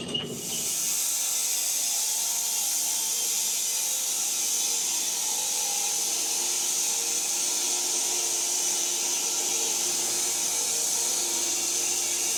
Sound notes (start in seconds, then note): 0.6 saw whirring